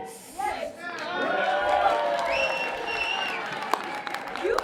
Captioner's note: cheering